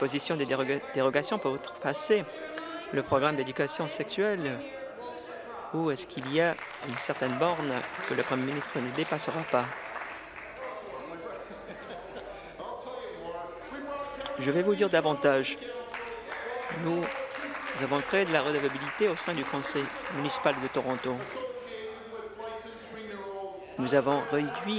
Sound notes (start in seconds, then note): 9.3 applause; 20.8 applause